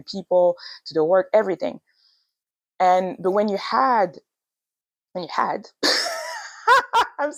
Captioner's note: laughs